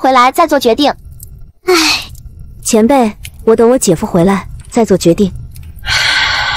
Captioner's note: sigh